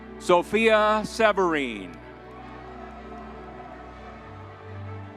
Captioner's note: crowd cheering